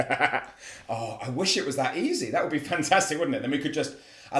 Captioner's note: laugh